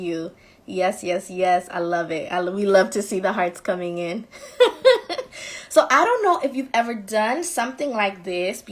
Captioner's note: laughing